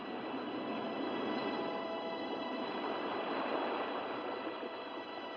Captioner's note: water crashing into rocks